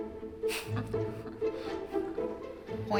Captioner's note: chuckles